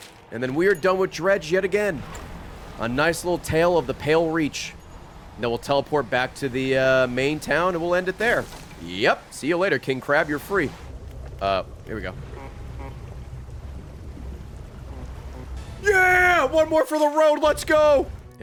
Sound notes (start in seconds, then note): 12.2 distant honks; 12.2 honks